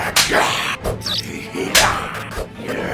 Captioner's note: vampire growls; lights buzzing; hand slaps; lights buzzing; vampire growls